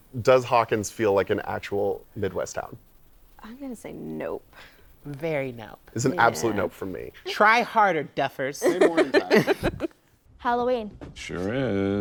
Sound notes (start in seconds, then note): 8.6 laughter